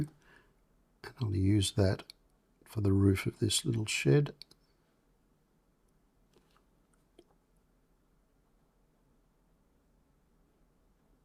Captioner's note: silence